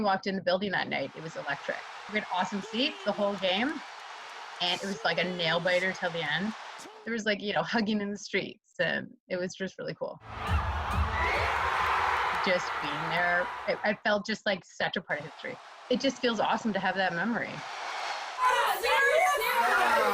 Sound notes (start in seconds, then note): 15.1 cheers and applause